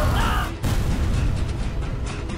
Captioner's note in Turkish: Patlama sesi